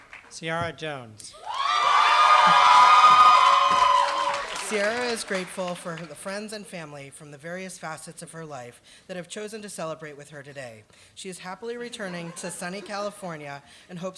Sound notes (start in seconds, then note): 1.4 applause